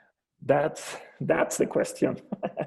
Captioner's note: laughs